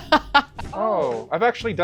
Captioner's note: laughing